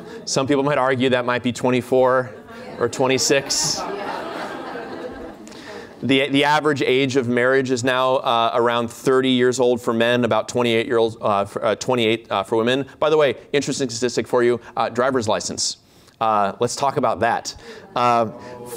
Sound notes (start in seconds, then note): 3.1 laughter